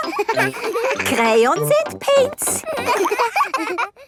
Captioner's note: all laughing